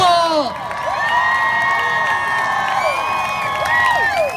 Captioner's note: crowd cheers